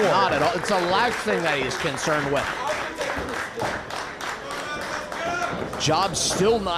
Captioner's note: applause